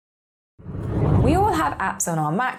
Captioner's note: air whooshing